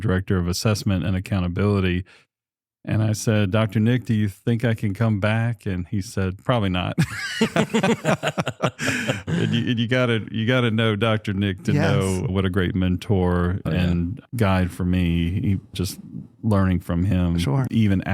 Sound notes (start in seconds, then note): 7.0 laughter